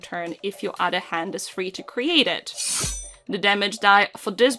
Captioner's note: schiiing of a blade